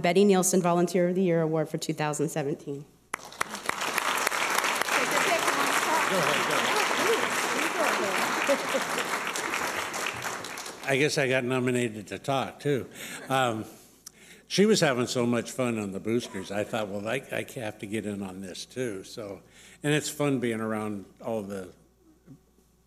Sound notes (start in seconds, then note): 3.4 applause; 6.5 people talking